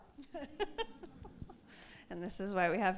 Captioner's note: laughs